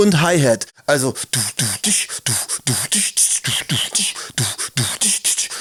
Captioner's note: beat boxing noises